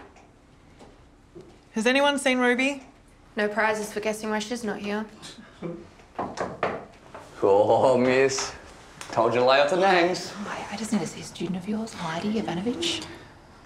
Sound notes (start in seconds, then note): 6.1 knocking at door